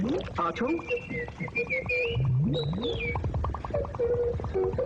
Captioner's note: beeping noise